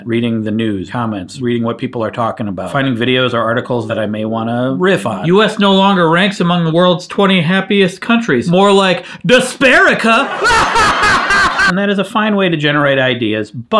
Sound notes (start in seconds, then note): 10.3 laughing